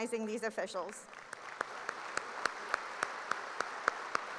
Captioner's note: applause